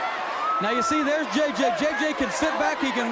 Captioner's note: crowd chatter